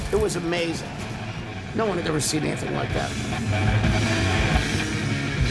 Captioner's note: fire crackles